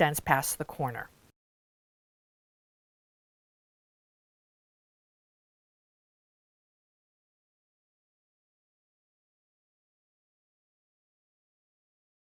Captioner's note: no Sound Present